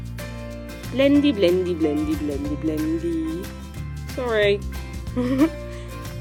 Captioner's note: chuckles